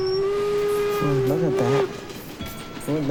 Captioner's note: train whistles; train wheels squeaking